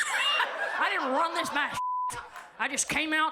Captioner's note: audience laughs; beep